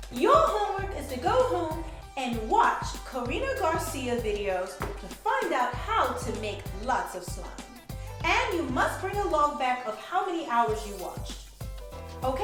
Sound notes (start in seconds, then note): none